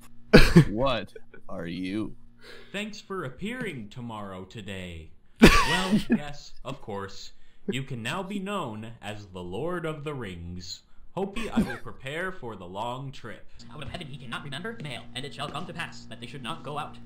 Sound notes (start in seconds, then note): 5.4 laughs